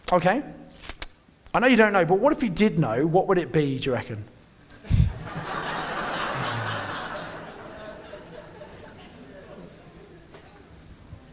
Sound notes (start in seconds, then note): 4.8 audience laughing